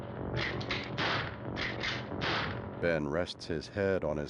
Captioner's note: gun cocks, gunshot